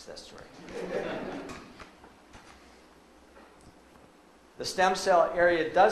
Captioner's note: audience laughs